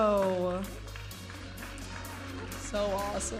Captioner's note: audience applauding and cheering